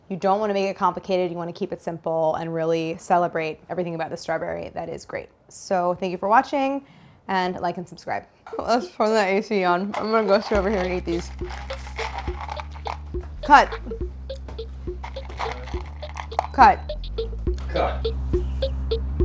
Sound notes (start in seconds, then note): 12.4 pistachios rattling; 19.0 staccato music